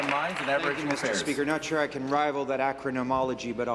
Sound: applause

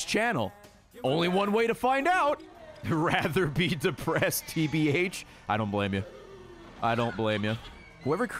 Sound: laughs

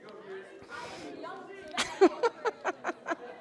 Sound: laughs

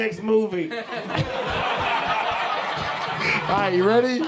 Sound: audience laughing

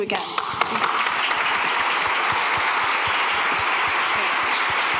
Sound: applause

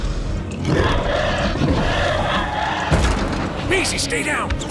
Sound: dinosaur snarling

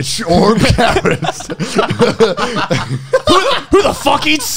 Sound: everyone laughs

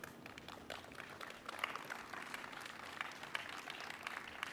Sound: audience applauding

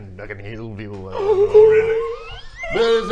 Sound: gasppppp

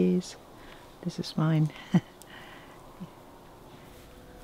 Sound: chuckles

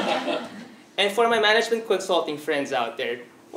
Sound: laugh

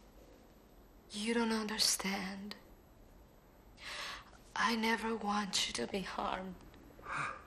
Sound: crying

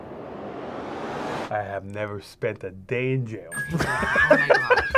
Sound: laughs

